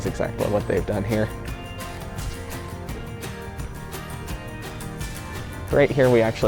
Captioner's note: natural Store Sounds, Music Plays